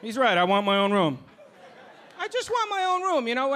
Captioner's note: audience laughing